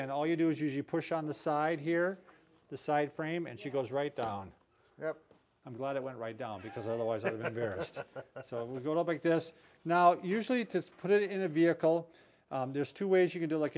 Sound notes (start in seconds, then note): 8.2 laughing